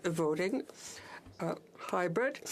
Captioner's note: speaking French